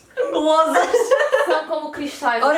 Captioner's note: laughs